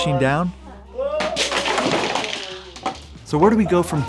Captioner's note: blocks rattling